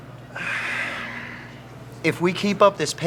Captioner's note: Curtis sighs